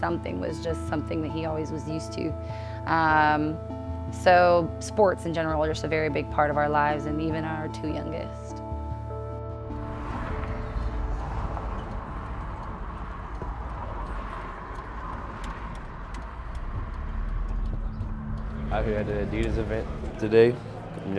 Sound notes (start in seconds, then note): 9.3 anxious electronic music; 9.3 vehicles whooshing; 14.7 windshield wipers clacking